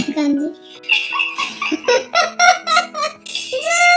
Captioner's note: laughs